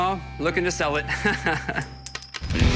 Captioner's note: laughs